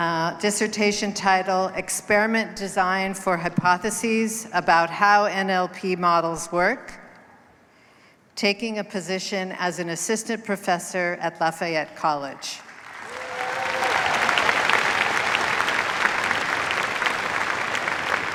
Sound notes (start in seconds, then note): 12.6 applause